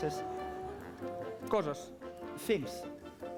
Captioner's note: non-english speech